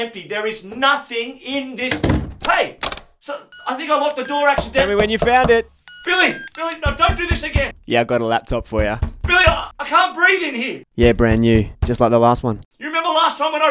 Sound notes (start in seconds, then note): 1.9 door slams; 5.9 MAN hammering on the door of spare room; 5.9 calls